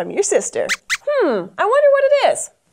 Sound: squeaks squeaks

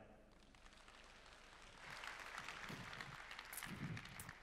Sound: applause

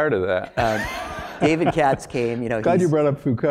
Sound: laugh

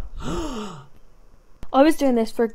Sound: gasps

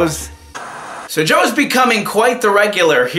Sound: TV static

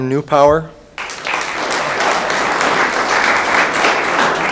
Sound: room applauds

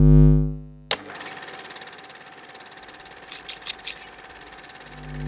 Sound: camera film rolling

